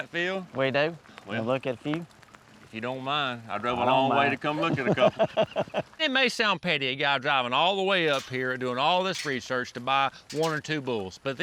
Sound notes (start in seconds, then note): 4.5 laughter